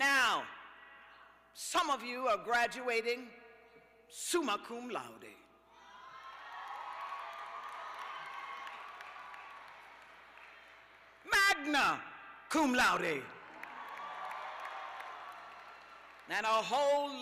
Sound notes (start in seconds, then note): 8.7 cheers and applause